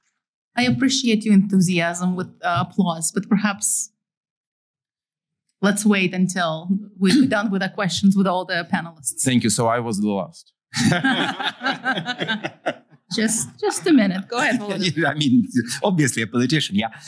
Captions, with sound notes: I appreciate your enthusiasm with applause. But perhaps let's wait until we've done with the questions with all the panelists. Thank you, so I was the last. [LAUGHTER] Just a minute. Go ahead, Volodymyr. I mean, obviously a politician, yeah?